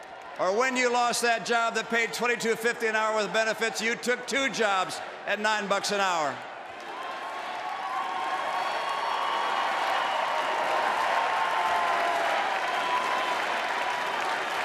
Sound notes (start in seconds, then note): 11.5 applause